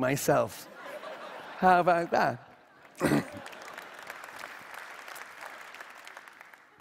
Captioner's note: Applause; 掌聲